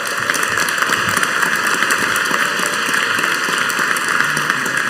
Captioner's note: audience applauding